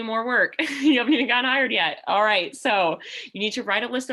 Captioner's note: laughter